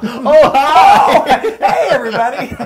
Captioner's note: laugh